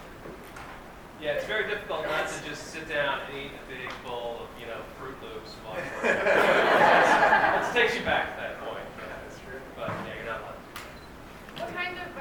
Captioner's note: laughter